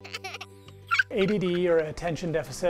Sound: child laughing

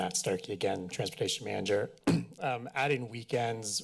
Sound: clears throat

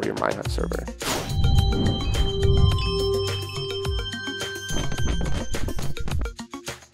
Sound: rhythmic music; whooshing; upbeat music

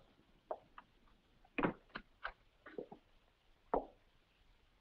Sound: door clicks shut

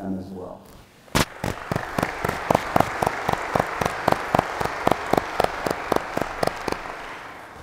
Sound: applause

